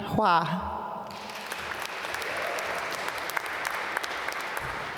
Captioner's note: applause